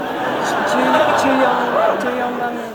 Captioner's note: laughter